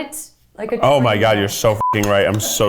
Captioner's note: beep